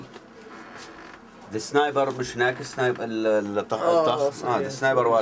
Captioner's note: speaking in Arabic